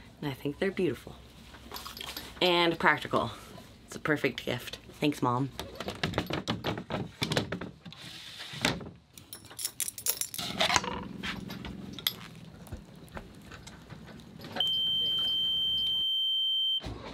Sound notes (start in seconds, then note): 6.8 hatch rattling; 9.2 keys jangling; 15.0 high-pitched tone whines